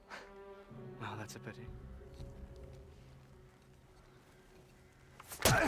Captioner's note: laughs